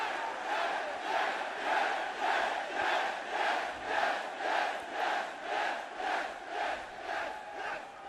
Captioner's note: cheers & applause; fans chanting